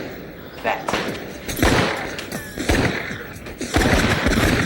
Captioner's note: gunshots fire